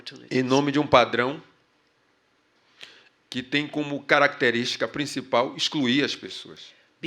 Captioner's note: speaking portuguese